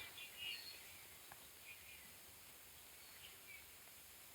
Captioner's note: birds chirping